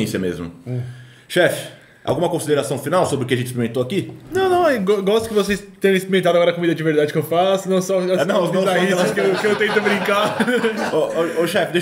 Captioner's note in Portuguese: risos